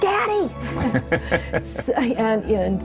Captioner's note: both chuckling